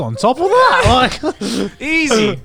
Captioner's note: group laughs